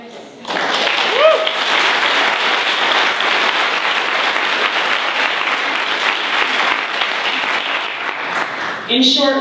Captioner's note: applause